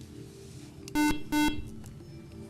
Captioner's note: beeping